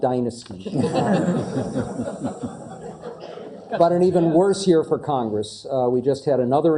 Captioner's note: laugh